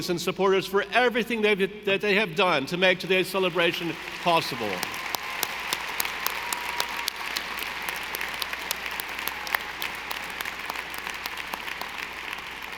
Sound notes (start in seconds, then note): 5.1 audience applauding